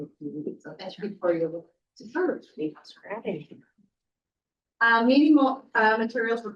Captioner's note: static drowns